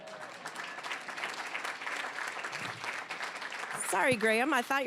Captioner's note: applause